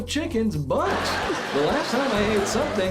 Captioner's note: laughter